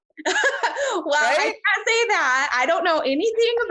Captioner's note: laughs